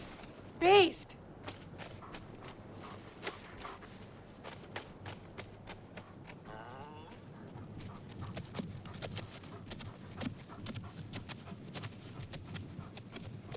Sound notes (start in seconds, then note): 6.8 Beast whines